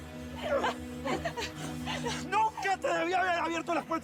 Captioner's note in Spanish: sollozos